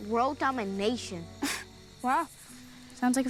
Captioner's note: chuckles